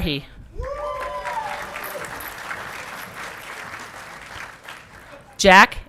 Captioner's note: audience clapping and cheering